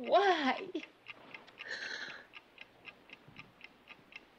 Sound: clock ticking

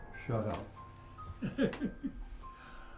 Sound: chuckles

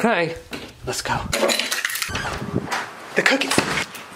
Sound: pieces cracking

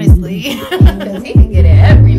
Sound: laughing

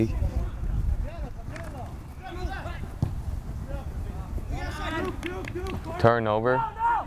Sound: players talking and yelling

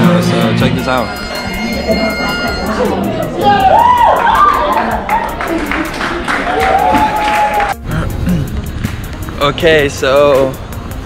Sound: applause

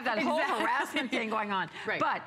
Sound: laughter

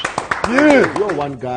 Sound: applause

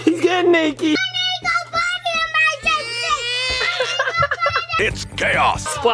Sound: kid yelling; kid whining

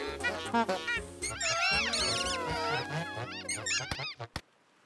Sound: all honking; honks and squeaks

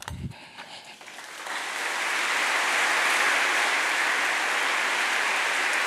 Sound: applause

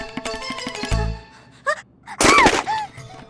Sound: yells

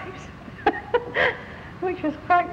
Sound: laughs

